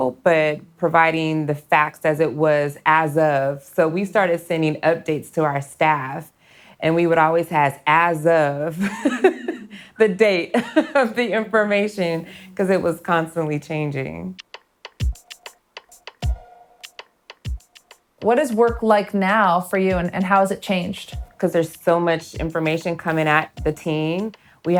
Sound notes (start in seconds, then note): 8.8 laughs; 15.8 upbeat music